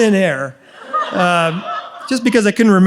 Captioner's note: audience laughs